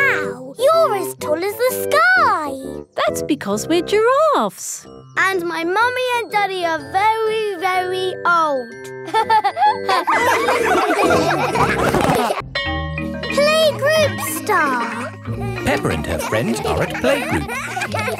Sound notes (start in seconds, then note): 9.1 all laughing; 17.9 kids giggling